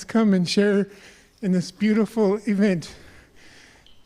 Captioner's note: speaking native language